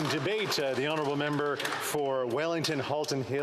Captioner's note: applause